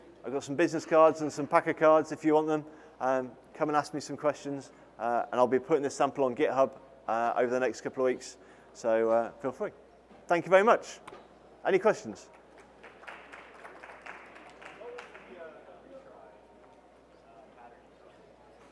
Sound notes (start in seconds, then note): 9.9 applause